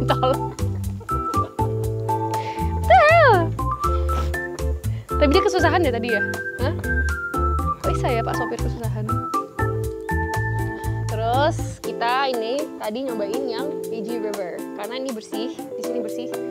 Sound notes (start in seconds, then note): 1.6 chuckled